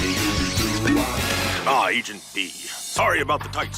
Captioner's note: man scatting; pops